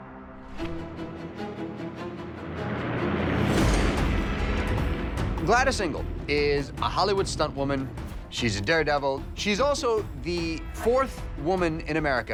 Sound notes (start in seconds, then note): 0.1 upbeat music; 2.8 plane engine roaring